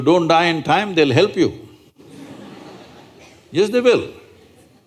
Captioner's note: laughter